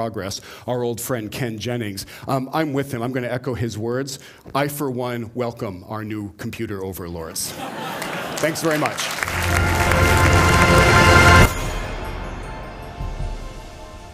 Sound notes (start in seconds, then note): 7.5 laughter; 7.6 applause